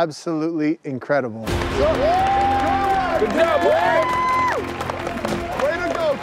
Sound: cheering and applauding

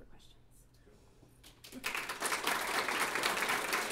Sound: applause

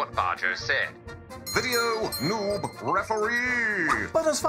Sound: bell dings

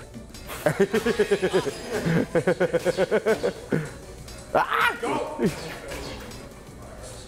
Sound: laugh

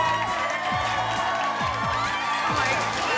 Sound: cheers and applause

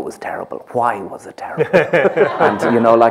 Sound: laughter

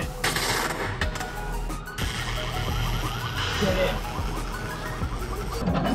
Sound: electric cables spark

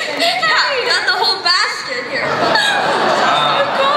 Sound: voiceover; laughter

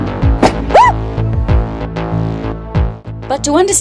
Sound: epic electronic music; fire pops; shouts

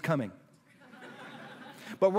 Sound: laughter

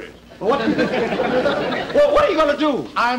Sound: audience Laughing

